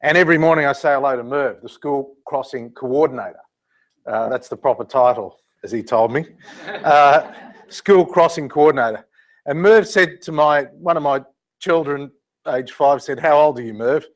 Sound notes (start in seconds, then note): 6.4 laugh